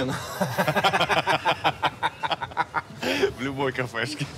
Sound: laugh

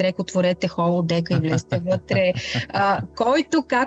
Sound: laughter

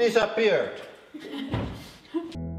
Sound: chuckling

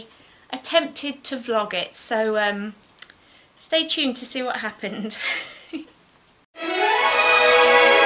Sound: giggles; vintage style music plays

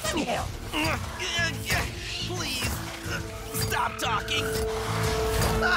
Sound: groaning

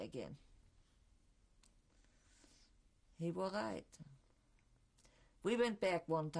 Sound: pauses for 3 seconds

